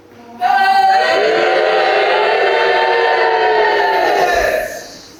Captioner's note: audience: boooooo!